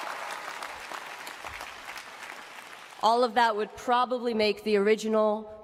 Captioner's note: applause